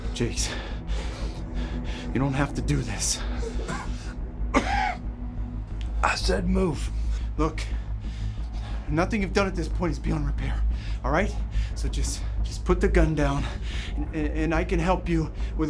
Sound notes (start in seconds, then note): 4.5 David coughing